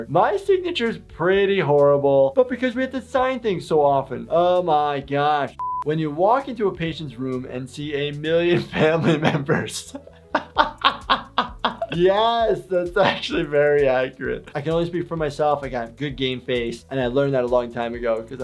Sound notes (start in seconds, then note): 11.1 laughs